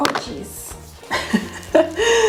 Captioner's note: laughs